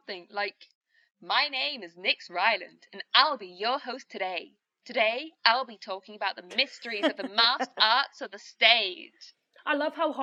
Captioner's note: bad imitation of an american radio host; nyx laughs